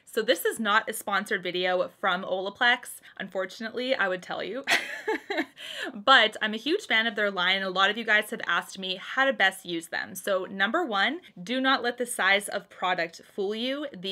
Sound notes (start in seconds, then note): 4.6 chuckles